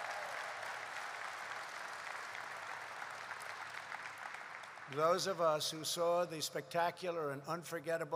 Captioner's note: applause